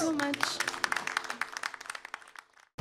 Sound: applause

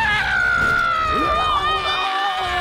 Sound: screams

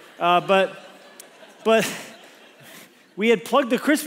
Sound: congregation laughs

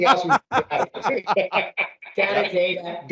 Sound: laughing

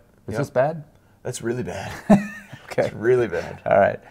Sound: laughs

